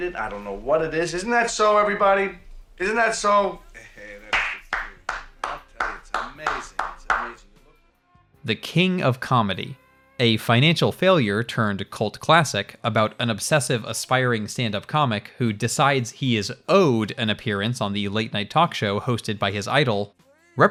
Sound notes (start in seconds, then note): 4.3 clapping